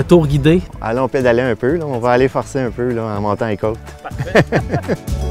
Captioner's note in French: laugh